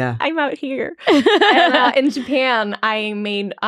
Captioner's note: laughing